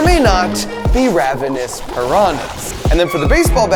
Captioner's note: water bubbling